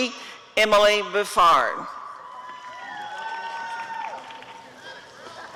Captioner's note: applause and cheering